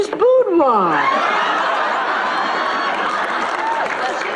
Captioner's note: laughs